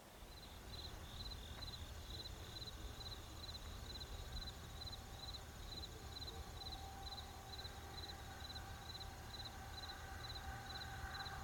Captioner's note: crickets chirping